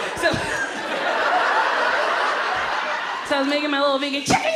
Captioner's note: audience laughs